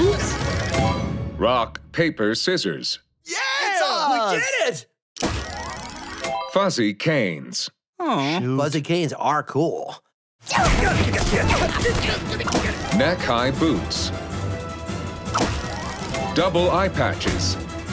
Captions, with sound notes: Rock, Paper, Scissors. [cheering] Fuzzy canes. -Hmm. -Fuzzy canes are cool. [grunting] Neck high boots. Double eyepatches.